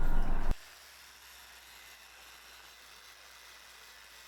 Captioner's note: grinder buzzing